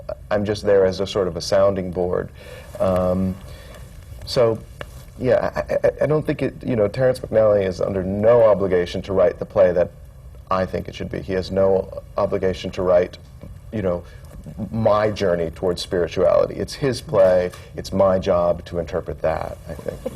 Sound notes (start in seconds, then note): none